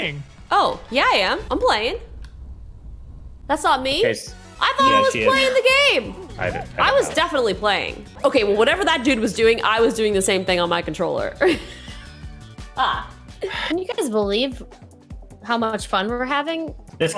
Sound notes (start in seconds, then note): 11.4 laughing; 13.5 gentle music